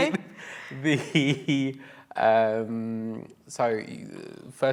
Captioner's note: laughs